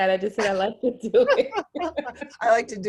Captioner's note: chuckles